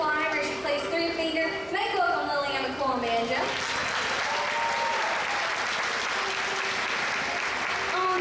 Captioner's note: applause